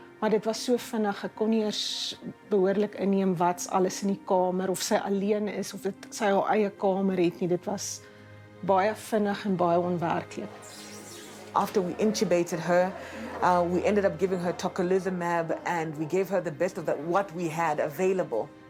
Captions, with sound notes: But it was so quick, I hardly noticed the contents of her room, or if she was on her own in her own room. It was very quick and unreal. [indistinct chatter] After we intubated her, we ended up giving her tocilizumab, and we gave her the best of what we had available.